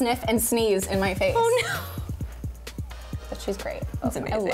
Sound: laughing

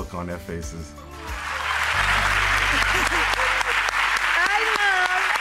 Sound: audience applauds

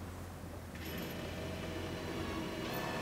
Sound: drilling

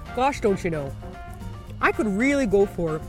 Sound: heavy Canadian accent

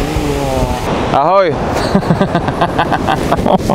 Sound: laughing

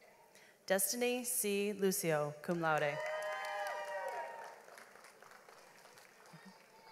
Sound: audience applauds

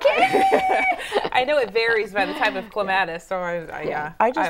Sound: laughing

